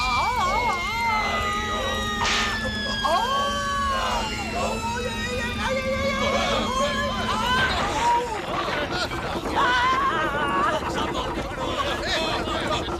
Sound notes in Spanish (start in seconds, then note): 0.1 grita; 9.3 grita